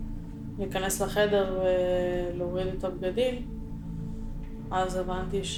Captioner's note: Hebrew